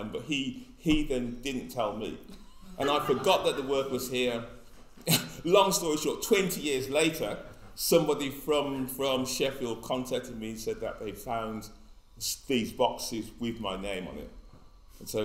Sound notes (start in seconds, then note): 2.4 all laugh; 5.0 laughs